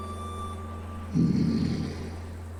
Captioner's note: angry growl